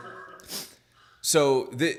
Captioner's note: laughing